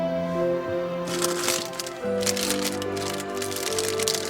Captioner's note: tender synth music continues; bag crinkles